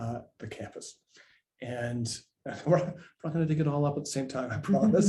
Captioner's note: laughs